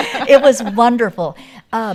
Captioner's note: all laugh